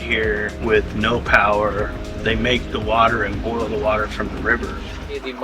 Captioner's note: drinking